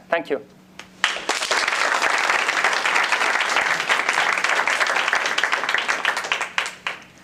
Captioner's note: applause